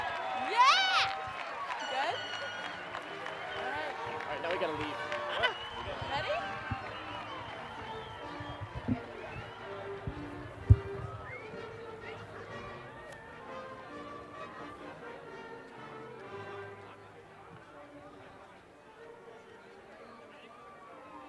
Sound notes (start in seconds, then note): 6.1 applause